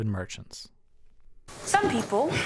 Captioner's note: soundbite of tv show, "the outlaws"